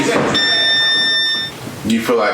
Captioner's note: bell ringing